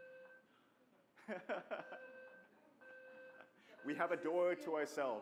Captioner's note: laughter